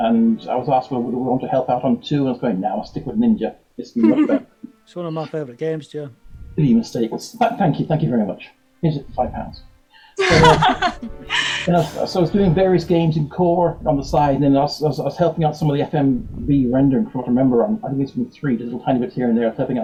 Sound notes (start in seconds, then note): 4.0 laughs; 10.2 all laughing